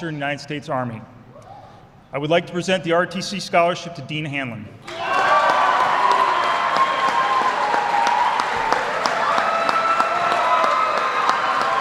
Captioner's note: applause